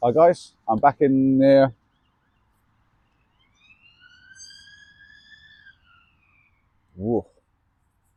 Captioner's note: sirens